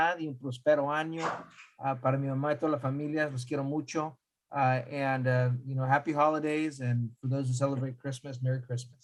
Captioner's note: speaking spanish